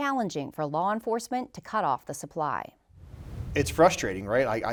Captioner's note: logo whooshes